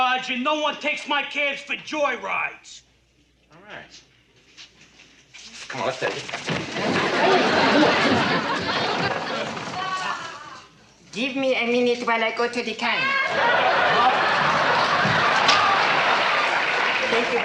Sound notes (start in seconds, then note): 6.7 footsteps shuffling loudly; 6.7 audience laughing loudly; 13.2 audience laughing loudly